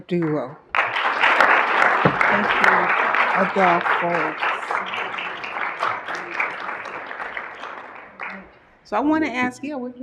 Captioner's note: applause